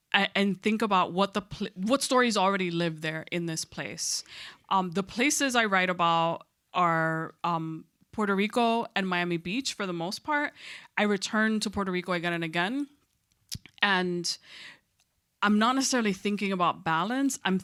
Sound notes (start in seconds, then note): none